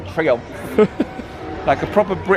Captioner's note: laughing